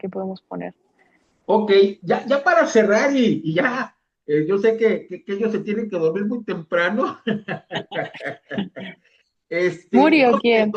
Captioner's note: risas